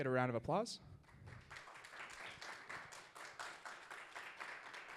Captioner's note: audience applauds